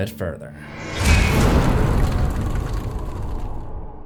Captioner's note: impact